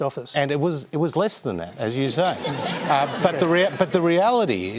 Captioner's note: laughter